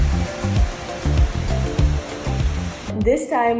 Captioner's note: water flowing